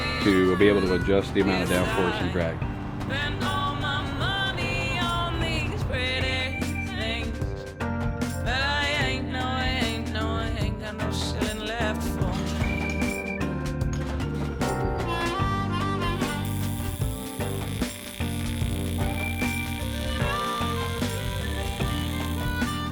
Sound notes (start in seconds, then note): 15.3 dramatic music; 16.0 electricity buzzes